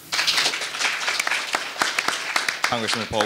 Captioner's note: audience applauding